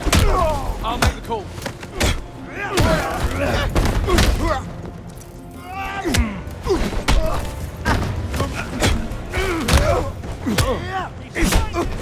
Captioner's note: groaning